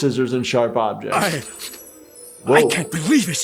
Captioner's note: sparkling sounds